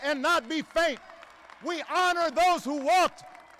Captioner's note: applause